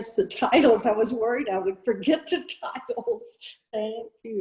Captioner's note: chuckles; chuckles